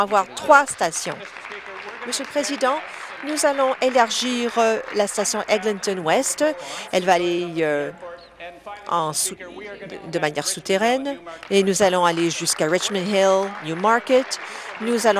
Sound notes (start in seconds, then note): 4.6 applause